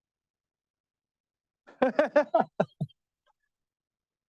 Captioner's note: laughs